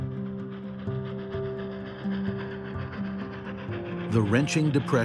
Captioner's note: train chugging